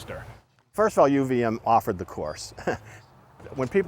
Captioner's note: chuckling